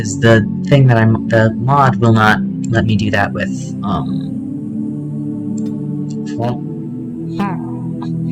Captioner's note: slider adjustment sound effects